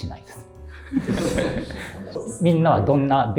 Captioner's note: laughing